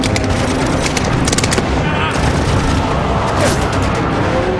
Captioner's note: guns firing